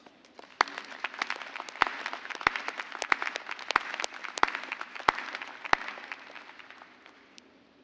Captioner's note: applause